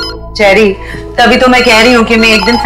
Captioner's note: Phone ringing